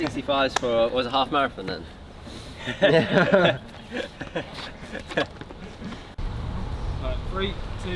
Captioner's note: laughter